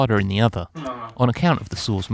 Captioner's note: argh